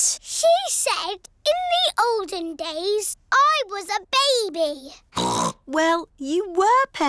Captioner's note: snorts